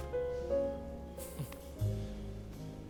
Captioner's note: chuckles